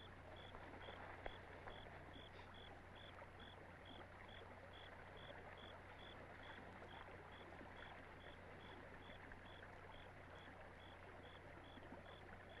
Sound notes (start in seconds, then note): none